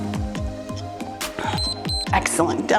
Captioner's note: timer beeps